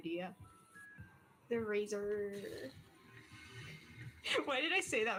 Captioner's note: laughs